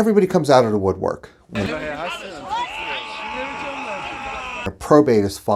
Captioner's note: crowd babbling